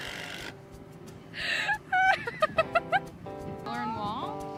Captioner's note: laughing